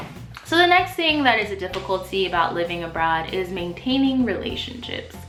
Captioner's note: swoosh